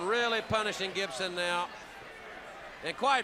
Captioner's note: crowd chatter